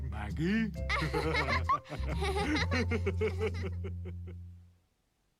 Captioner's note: laughing